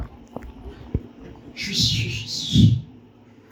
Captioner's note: whistles